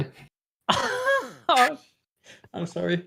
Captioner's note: wheezing